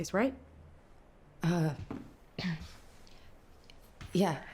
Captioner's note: clears throat